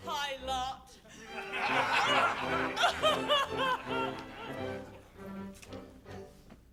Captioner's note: Ruth crying; pirates laughing